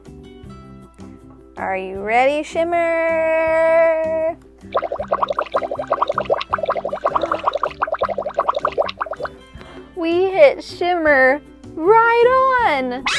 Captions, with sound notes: Are you ready Shimmer? (bubbling) We hit Shimmer, right on!